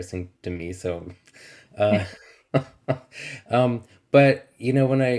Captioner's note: chuckles